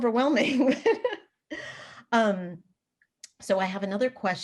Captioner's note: laughs lightly